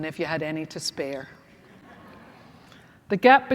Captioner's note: laughter